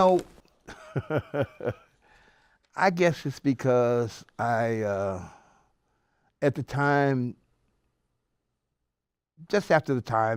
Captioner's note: laughs